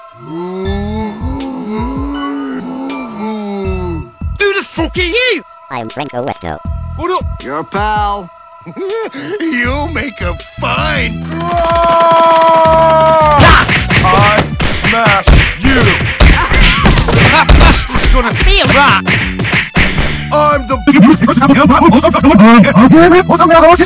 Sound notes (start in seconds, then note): 0.2 Antoine Cries in a weird way; 6.1 With Speakonia Voice; 11.3 Russell Comes running from the distances Yelling; 17.2 Franko Westo Laughs; 20.9 sped Up Backwards Voices